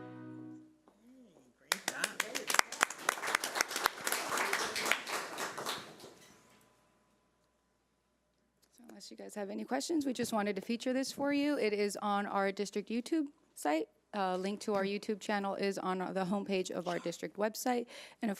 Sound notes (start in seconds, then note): 1.7 audience applauding